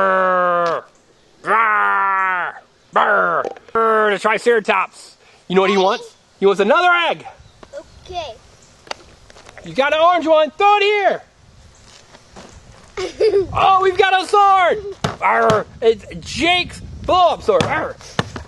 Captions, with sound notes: Burrrrrr, the triceratops. You know what he wants? He wants another egg! - Okay. - [Voiceover] You got an orange one. Throw it here! Oh, we've got a sword. Argh. It's Jake's sword.